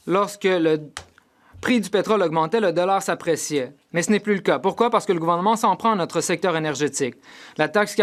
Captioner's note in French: voix de l'interprète